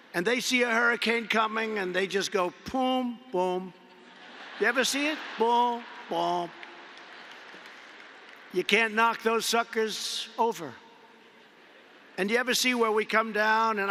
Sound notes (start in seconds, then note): 3.8 laughter